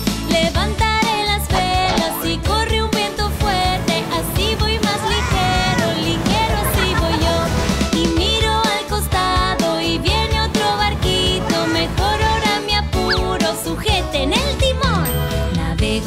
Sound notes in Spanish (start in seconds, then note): 6.4 Risas